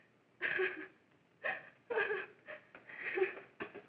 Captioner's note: sobbing